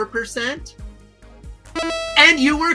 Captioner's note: machine buzzing